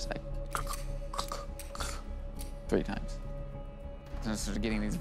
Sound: cocking gun

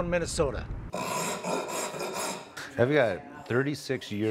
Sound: scratching sound

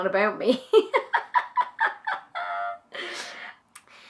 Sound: laughing

